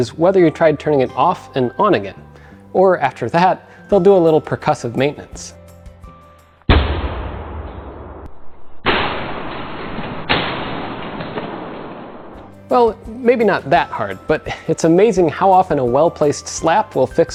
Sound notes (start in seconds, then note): 6.6 loud bang